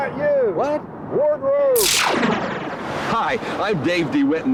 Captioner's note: sizzling